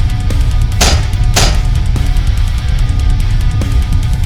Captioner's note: legs clank